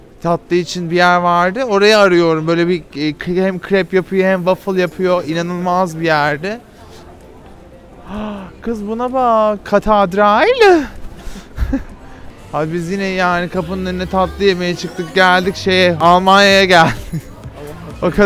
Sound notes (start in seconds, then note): 8.1 gasps; 10.7 laughs